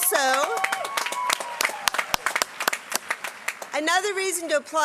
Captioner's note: applause